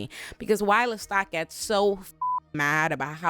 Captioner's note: beep